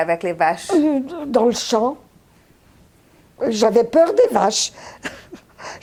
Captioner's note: laughing